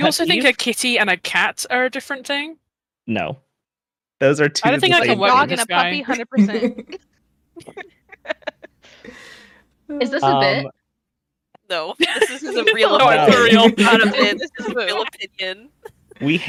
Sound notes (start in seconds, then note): 7.6 laugh; 12.0 everyone laughs